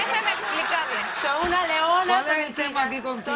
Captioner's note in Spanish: risas